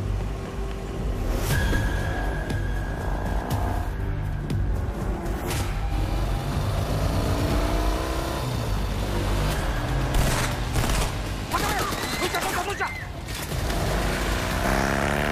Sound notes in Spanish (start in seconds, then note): 4.6 Sonido de motocicleta acelerando; 10.1 Disparos